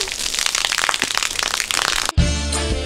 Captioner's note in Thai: เสียงฝน